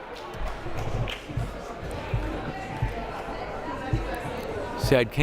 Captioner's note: crowd murmuring